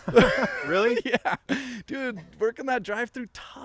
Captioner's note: all laughing